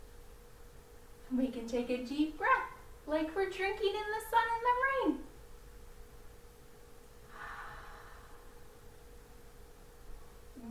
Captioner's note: takes a deep breath